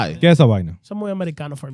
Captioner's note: speaking In Foreign Language